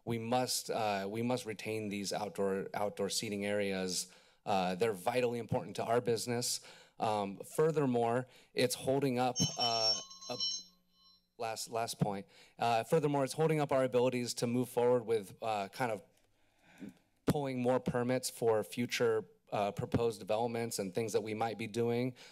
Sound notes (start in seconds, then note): 9.3 bell ringing